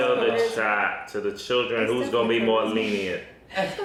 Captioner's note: pops